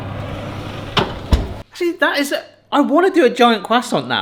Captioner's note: oven door slams closed